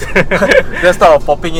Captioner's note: laughs